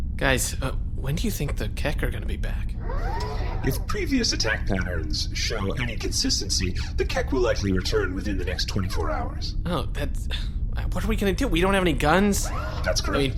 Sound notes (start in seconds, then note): 2.6 head swivel whirr; 10.3 sighs